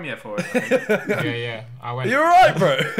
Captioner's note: laughing